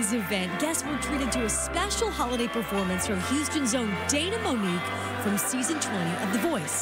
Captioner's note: cheers